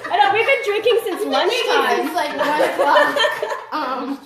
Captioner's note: laughs